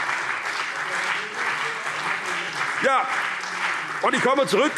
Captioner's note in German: Beifall CDU und vereinzelt BÜNDNIS 90/DIE GRÜNEN